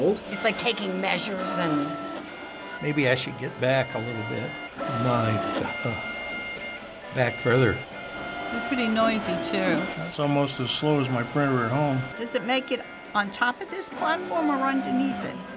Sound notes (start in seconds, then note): 7.7 machine whirs